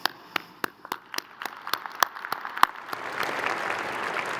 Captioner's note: crowd applauding